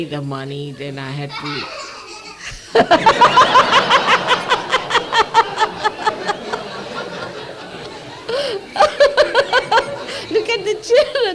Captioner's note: laugh explosion from the children